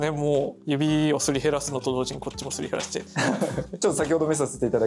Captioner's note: laughs